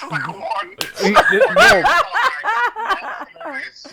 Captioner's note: laughing